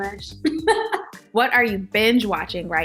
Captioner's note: laughing